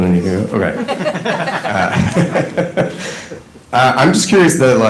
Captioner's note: laughter